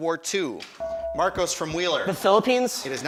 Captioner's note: buzzer chimes